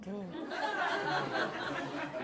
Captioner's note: laughter